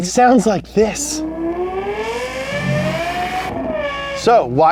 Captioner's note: car engines growl